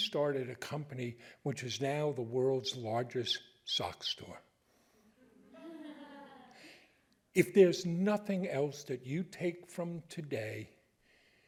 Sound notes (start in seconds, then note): 5.3 audience laughing